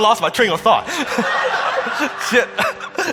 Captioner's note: laughing